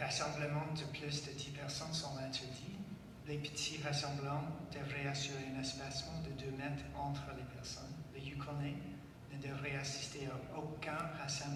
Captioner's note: speaking French